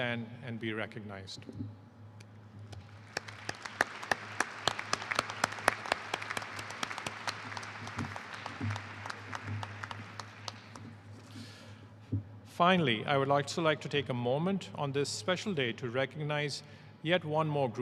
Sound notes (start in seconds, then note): 8.1 applause